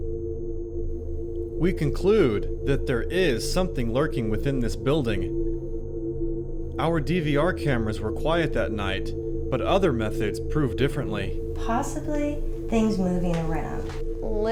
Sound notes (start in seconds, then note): 0.0 eerie music; 1.9 voiceover